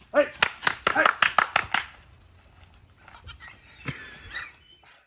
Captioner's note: clapping hands